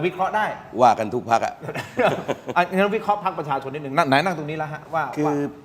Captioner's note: laughs